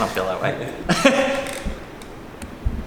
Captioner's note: sarcastic laugh